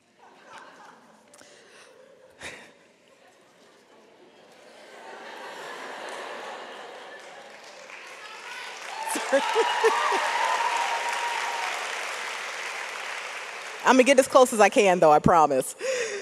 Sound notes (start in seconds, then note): 0.3 audience laughs; 8.3 audience applauds